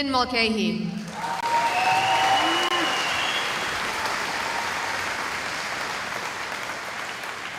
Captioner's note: cheering